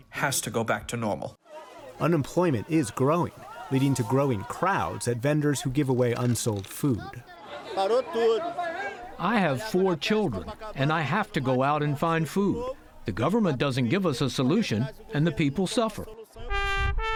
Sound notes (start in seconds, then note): 7.8 through translator